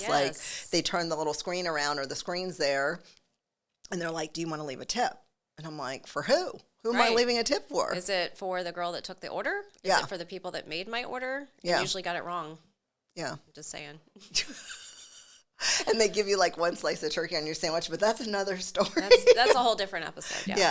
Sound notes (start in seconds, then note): 14.3 both laugh; 19.0 laughs